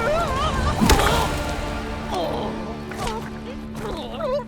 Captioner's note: groaning; thud